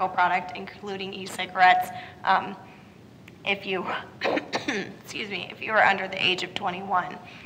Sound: cough

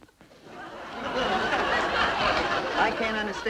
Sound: audience laughing

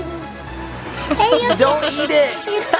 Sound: laughter

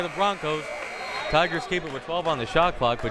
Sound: buzzer ringing; whistle tweeting

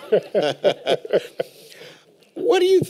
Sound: laughter

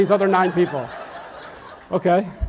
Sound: audience laughs

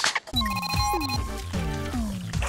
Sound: electronic beeping

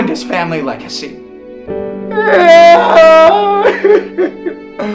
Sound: wailing

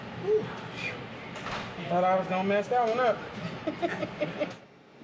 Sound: laughs

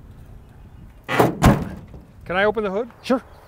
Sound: door shutting

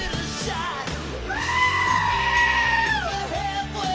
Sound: sheep screams

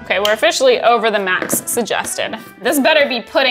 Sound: cover shuffling

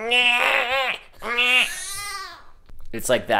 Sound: baby crying

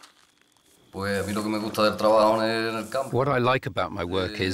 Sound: he speaks Spanish

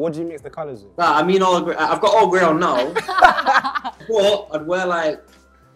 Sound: laughs

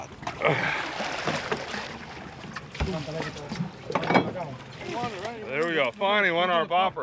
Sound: fish splashing

